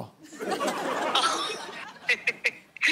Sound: laughing

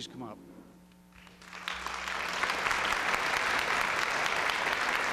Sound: applause

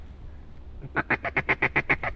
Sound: duck calling

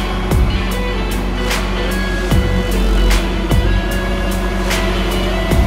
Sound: machinery running

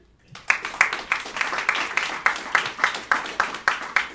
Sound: applauding

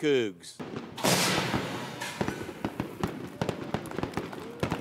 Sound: confetti cannons popping; people applauding

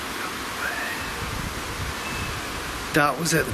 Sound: ghostly voice whispers

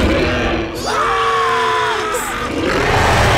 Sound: growling; screaming; growling

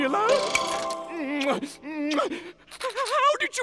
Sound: kissing

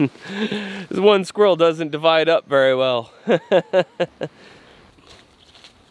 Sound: laughing

